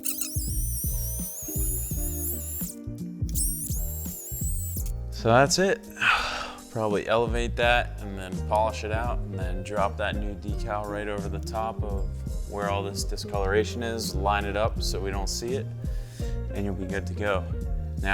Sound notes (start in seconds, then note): 0.0 high-pitched motor revving; 6.0 sighing